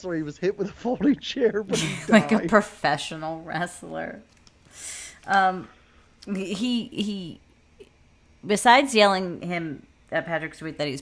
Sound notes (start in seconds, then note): 1.7 laughing